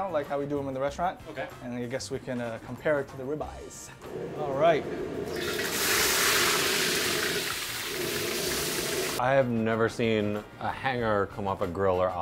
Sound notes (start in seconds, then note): 4.1 meat searing